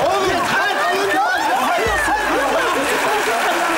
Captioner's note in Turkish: bağrışmalar